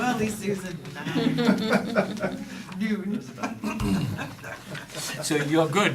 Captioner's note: laughter; laughter